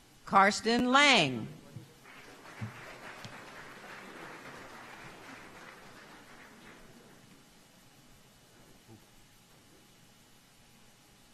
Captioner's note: applause